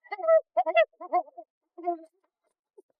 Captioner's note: laughing maniacally